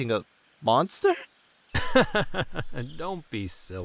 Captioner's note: laughs